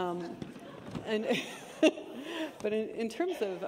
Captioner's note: laughter